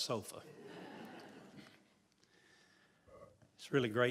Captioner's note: laughter